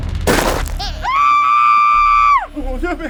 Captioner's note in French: cri d'horreur